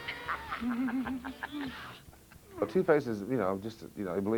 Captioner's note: Two-Face laughing